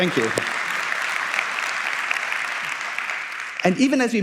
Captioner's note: applause